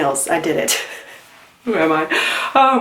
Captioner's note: laughs